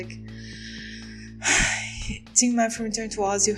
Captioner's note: deep breath